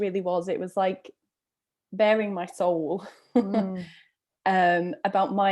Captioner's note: chuckles